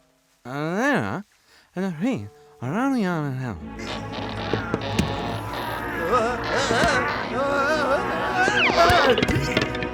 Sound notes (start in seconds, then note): 3.8 grunting